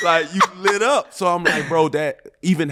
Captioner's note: laughing